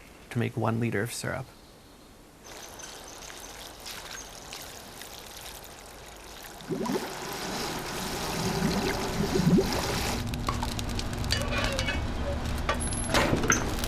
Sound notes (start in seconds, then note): 2.4 sap rushing; 6.6 bubbling